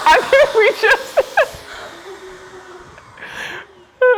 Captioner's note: laughs